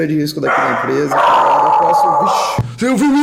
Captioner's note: dog barking